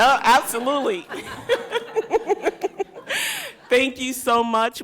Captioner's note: audience laughs